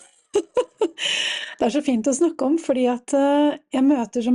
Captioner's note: laughter